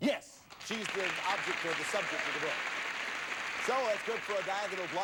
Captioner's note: audience applauding